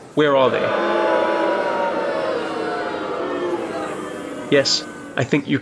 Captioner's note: booing